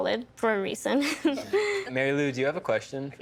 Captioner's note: chuckling